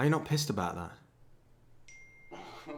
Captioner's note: phone pings